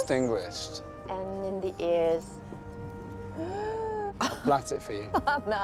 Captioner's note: mock gasping